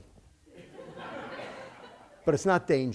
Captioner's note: laughter